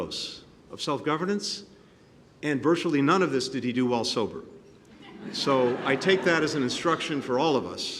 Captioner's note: laughter